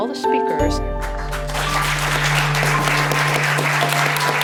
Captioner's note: applause